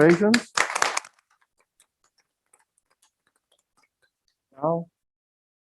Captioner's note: members applaud